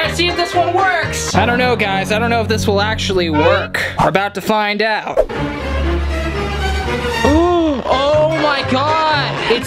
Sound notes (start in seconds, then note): 5.2 dramatic music; 7.3 gasps